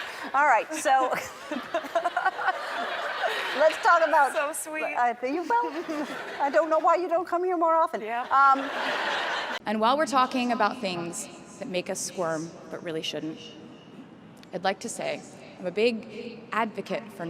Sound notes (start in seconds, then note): 0.0 and the crowd laughing hysterically; 0.7 Ellen, Taylor Swift, and the crowd laughing; 5.2 laughs; 8.4 crowd laughing hysterically